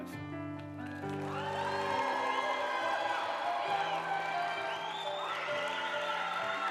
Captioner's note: uplifting music; group applauding